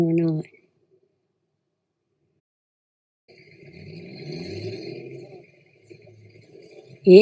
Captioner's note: truck pulling out of a lot